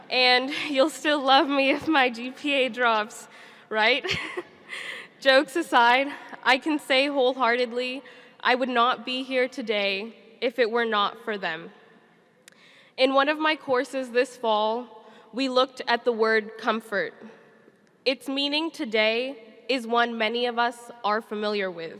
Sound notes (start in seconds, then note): 4.1 chuckles